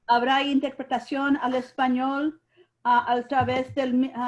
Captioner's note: speaking in Spanish